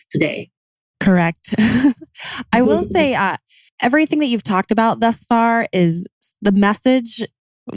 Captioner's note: laughs